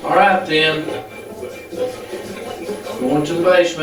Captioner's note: static playback transmitting